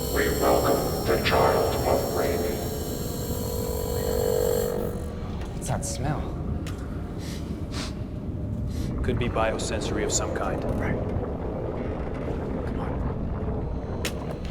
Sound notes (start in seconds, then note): 7.7 sniffs